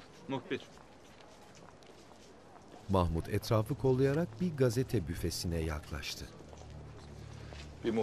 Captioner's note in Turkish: Sokak ortam sesi